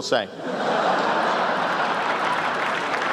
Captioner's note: laughter, applause